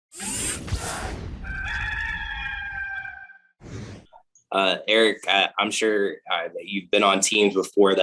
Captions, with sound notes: (tech noises) (rooster crowing) - Erik, I'm sure that you've been on teams before